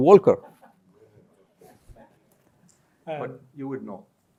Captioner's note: laughter